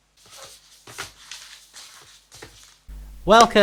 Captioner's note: shuffling papers